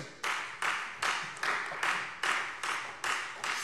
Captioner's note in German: Beifall Freie Demokraten